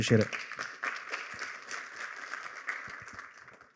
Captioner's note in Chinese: 掌声